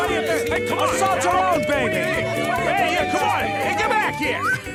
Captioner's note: jeering continues